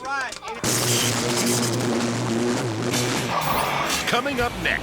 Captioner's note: electricity buzzing